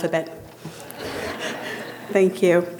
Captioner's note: audience laughing